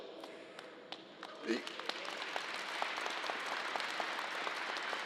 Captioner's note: crowd applause